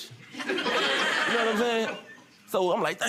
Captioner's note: audience laughing